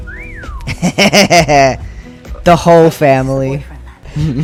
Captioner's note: laugh